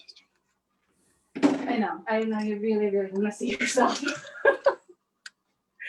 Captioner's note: laughs